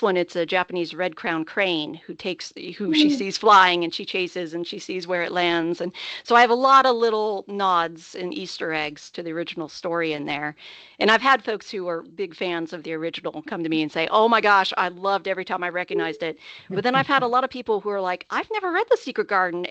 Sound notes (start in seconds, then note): 16.7 chuckling